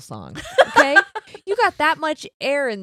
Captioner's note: laughing